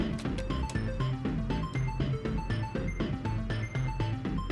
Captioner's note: erratic beeping